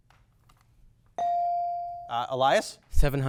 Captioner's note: bell dings